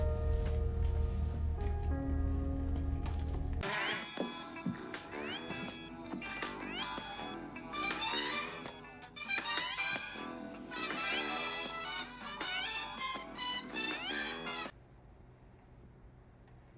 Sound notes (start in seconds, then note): 3.4 alarm beeping and jazz music playing; 14.9 low, electronic hum